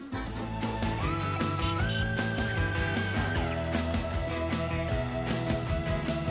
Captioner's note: upbeat rock music; car honking